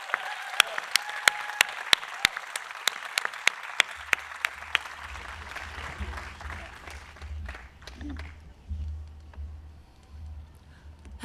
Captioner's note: applause